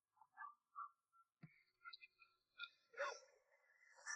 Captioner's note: dog barking